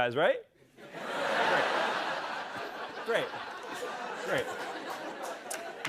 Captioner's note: laughter